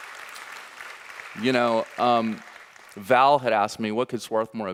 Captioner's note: audience applauding